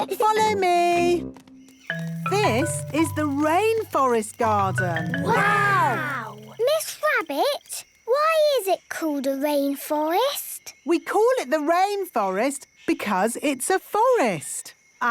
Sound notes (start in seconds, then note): 1.7 rainforest sounds